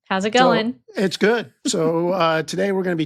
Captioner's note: chuckling